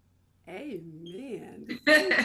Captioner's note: laughs